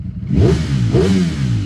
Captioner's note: engine revving